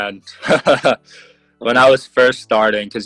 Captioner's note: laughs